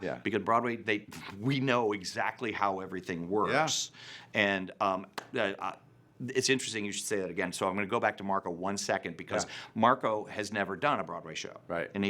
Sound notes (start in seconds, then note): none